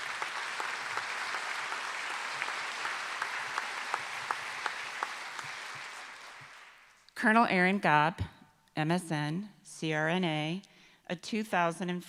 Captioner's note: applause